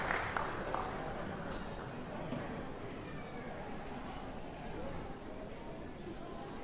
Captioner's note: chatter